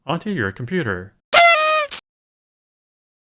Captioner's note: party horn